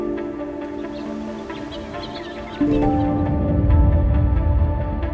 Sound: birds chirping; bright music

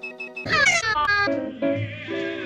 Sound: broken crying

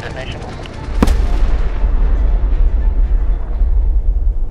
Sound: helicopter whirring; avalanche charge detonates

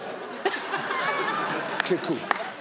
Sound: audience laugh

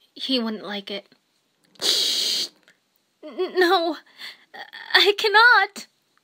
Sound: static; static

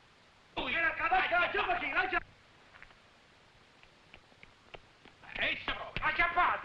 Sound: officers shouting in foreign language

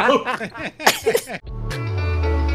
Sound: laughing continues

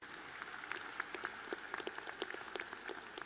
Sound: applause

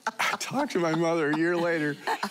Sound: laughing

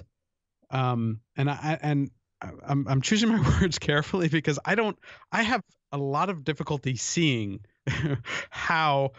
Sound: chuckle

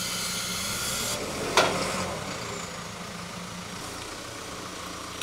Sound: telehandler engine revving

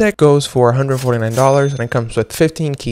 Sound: cash register rings

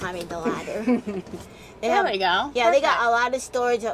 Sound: laughs

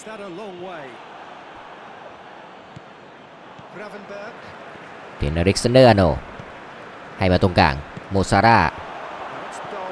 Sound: applause

